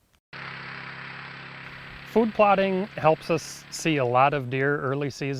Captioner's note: 4-wheeler hums